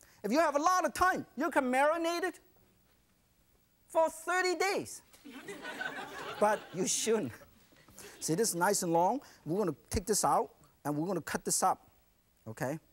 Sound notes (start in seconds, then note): 5.2 audience laughs